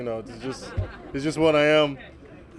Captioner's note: laughter